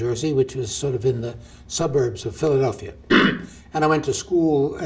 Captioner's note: clears throat